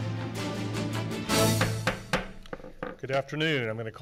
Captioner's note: gavel banging